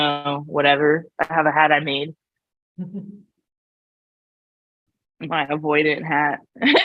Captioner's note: laughs